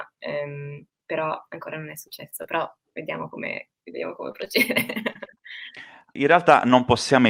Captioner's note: laughs